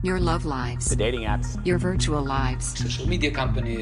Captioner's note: soundbite of archived recording